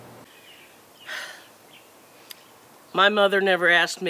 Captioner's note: sighs